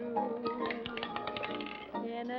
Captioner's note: roulette ball rattling